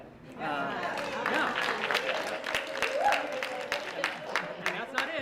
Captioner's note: applause